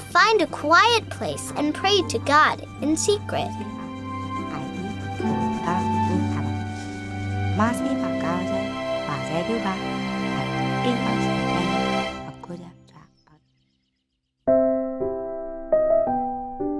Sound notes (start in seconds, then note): 4.7 gentle music; 4.7 praying in another language; 14.5 soft piano music